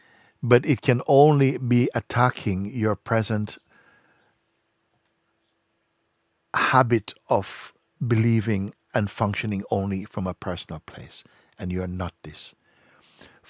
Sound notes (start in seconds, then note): none